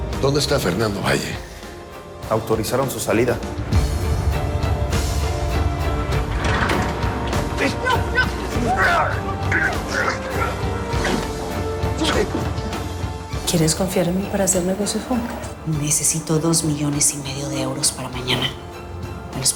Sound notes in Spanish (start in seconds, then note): 9.0 Gritos y forcejeos